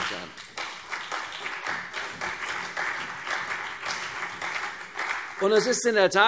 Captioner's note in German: Beifall CDU und vereinzelt BÜNDNIS 90/DIE GRÜNEN